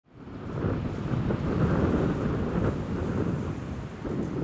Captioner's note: waves splashing